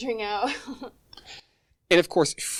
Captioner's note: girl laughing